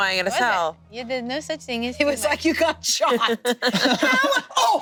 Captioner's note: group laughing